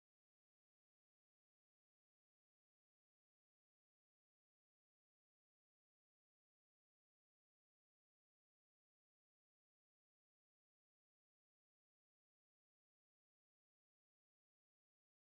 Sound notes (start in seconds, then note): none